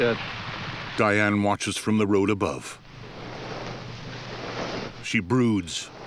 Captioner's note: rustling